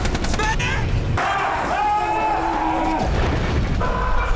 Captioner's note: screaming